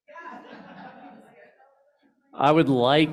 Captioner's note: laughter